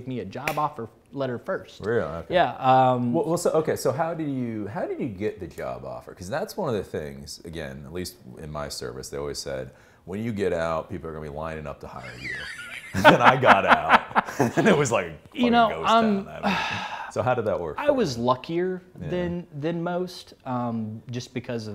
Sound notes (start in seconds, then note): 11.9 laughs